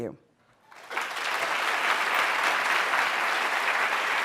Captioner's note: applause